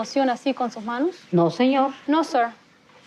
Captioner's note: speaking Spanish